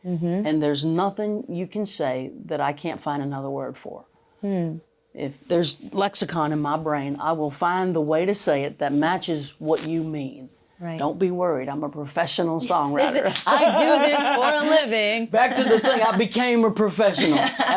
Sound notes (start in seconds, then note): 13.3 claps